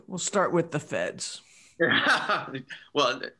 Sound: laughter

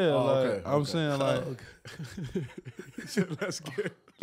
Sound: laughing

